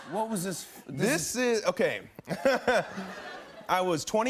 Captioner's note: laughs